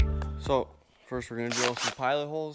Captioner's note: drill whirring